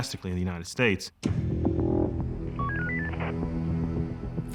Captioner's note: radio beeping